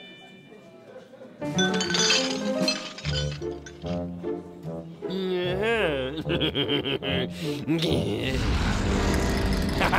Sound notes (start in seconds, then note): 1.4 dishes clinking; 5.8 chuckling; 8.3 volcano erupts